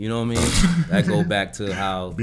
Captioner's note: Quentin laughing